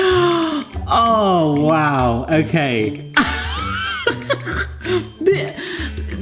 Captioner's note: chuckling; laughs